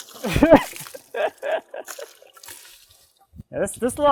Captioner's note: laughing